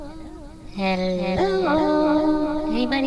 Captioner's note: echoing